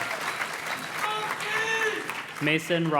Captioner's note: graduate cheers